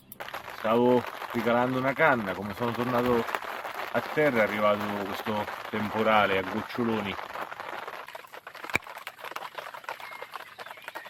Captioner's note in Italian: Applauso